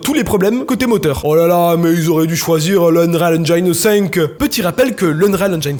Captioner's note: strong southern accent